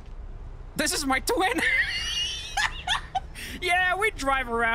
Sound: laughs

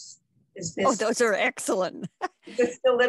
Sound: laughing

